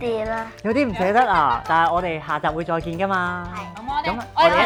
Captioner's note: laughing